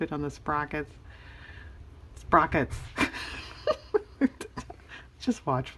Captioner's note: laughs